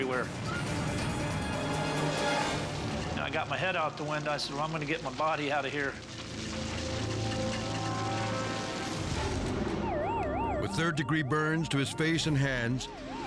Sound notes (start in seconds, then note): 0.0 tense music; 5.9 fire crackling